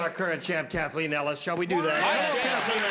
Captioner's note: applause, indistinct chatter